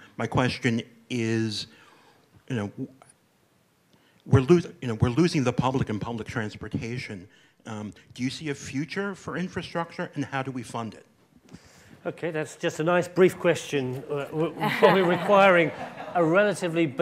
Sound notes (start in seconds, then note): 14.5 audience laughing happily